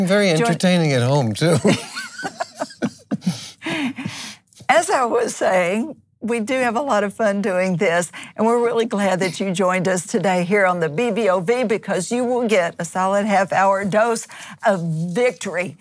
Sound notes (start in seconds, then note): 3.9 laughs